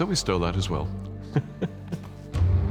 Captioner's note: chuckles